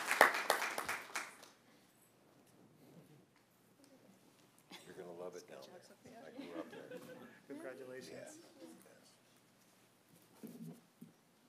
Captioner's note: applause